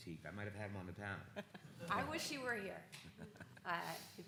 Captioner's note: speaker laughs